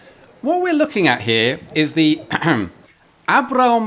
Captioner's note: ahem